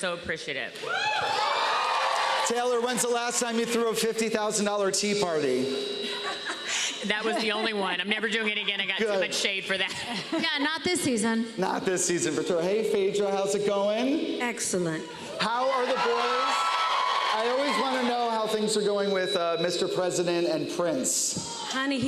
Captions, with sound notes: and we are so appreciative. -[cheers and applause] Taylor, when's the last time you threw a $50,000 tea party? [laughs] That was the only one. I'm never doing it again. -Good. -I got too much shade for that. -Yeah, not this season. -Not this season. Hey, Phaedra. How's it going? -Excellent. -How are the boys? -[cheers and applause] -I always wanna know how things are going with, uh, Mr. President and Prince.